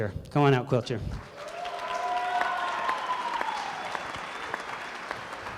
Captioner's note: crowd cheering